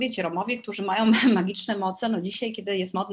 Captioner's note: śmiech